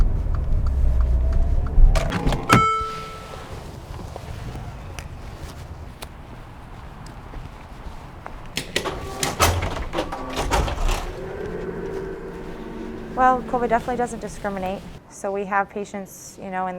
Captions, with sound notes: (door opens) - Well, COVID definitely doesn't discriminate. So we have patients, you know,